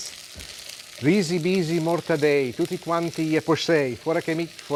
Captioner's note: speaking Italian in a rhythm